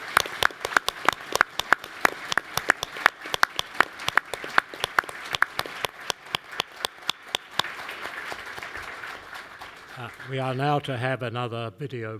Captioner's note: applause